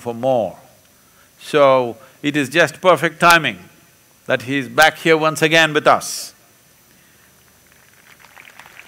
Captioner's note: applause